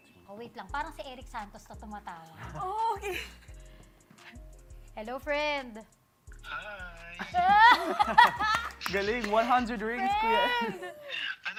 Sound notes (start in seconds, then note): 3.0 chuckles; 7.3 laughs, claps